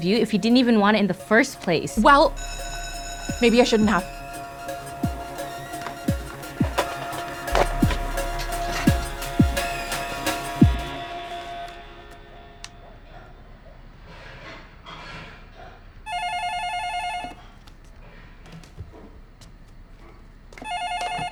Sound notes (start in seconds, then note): 2.3 school bell rings; 4.5 soft upbeat music; 16.2 phone ringing